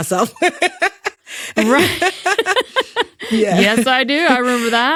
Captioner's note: both laughing